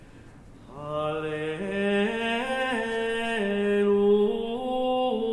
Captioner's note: chanting